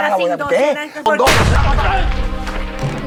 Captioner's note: shotgun fire